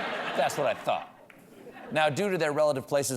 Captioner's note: laughter